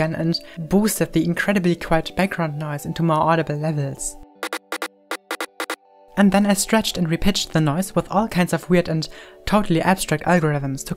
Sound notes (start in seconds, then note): 4.4 rhythmic static bursts